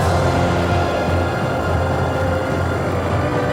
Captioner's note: crackling